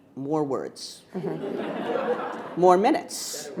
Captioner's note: audience laughing